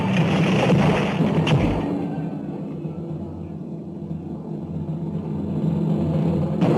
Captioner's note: dark music; Umaya screaming